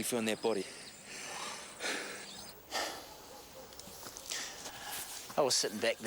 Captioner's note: breathing heavily